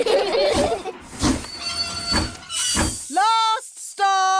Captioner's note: laugh; train chugs